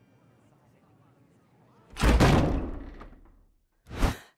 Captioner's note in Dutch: deur knalt open